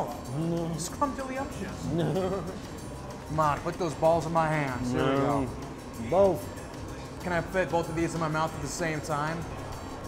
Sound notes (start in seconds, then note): 1.7 laughs